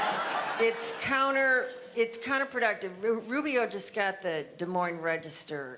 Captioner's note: audience laughter